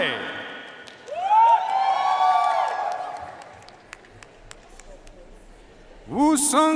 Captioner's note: audience cheering and applauding